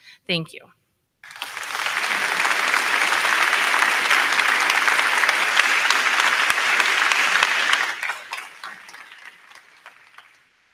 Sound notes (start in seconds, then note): 1.2 crowd cheering; 1.2 crowd clapping